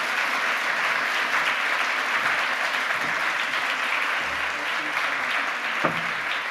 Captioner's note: applause